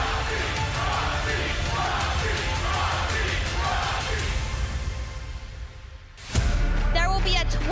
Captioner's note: crowd chants "roxy"